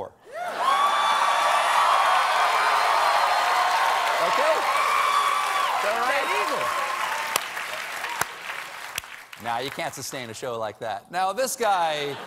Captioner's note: cheers and applause